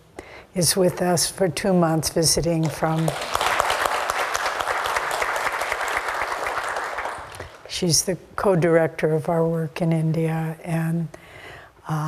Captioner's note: clapping